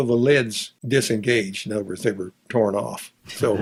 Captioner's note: both laughs